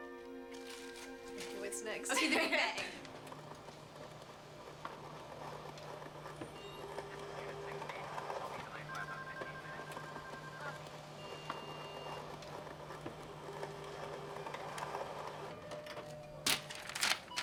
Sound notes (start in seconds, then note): 2.0 women giggling; 4.6 copier whirring; 9.7 phone ringing